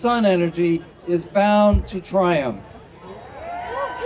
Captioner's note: audience cheering